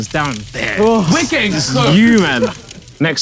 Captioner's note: Josh sighs